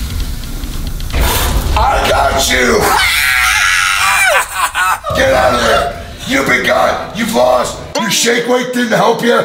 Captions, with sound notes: I got you! (screaming) Get out of there! You've been caught!! You've lost! Your shake weight didn't help you!